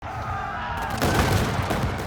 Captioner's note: soldier shouting; muskets blasting